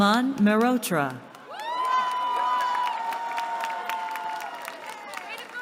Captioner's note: cheering